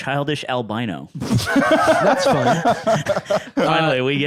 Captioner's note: laughing